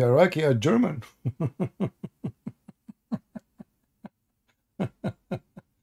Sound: Ketawa

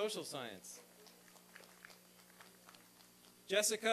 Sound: applause and cheering

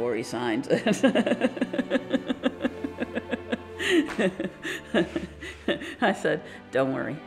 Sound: laughs

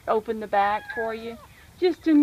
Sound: meow meow

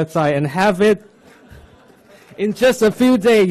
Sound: audience laughs

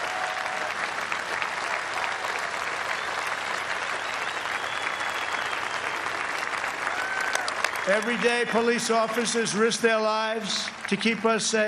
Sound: applause

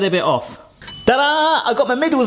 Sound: bell tinging

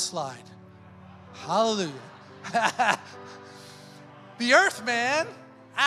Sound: laughs

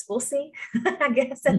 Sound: laughter

